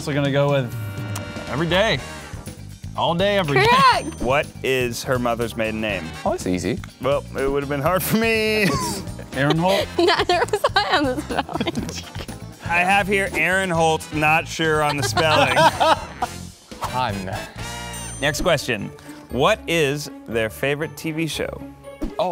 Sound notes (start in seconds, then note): 4.8 voiceover; 8.6 laughs; 14.8 laughing; 18.5 voiceover